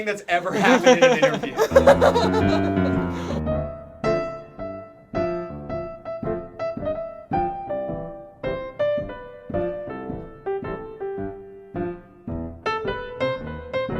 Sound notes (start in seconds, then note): 0.5 laughs; 1.8 smooth jazz music